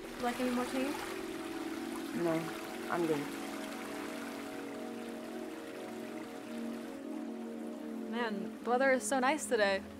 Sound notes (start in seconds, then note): 3.6 eerie music; 3.6 water flows